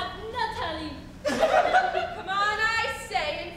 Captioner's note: women giggle